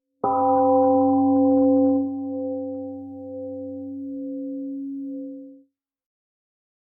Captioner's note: temple gong rings and fades